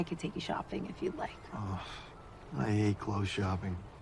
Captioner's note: groaning